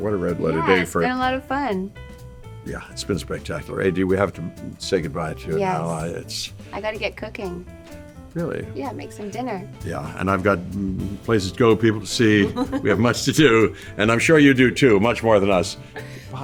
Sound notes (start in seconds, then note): 12.2 laughs